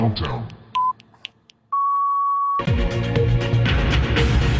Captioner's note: deep Computerized Voice; beeping; intense music